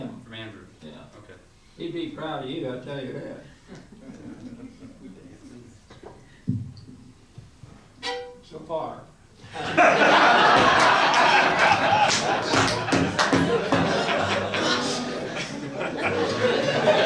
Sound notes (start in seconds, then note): 7.9 violin strums; 9.5 all laugh; 13.5 foot stomping